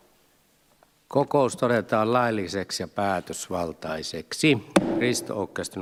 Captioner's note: Nuijan kopautus